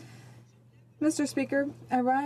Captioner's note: speaking in french